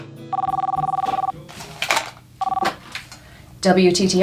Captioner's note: phone rings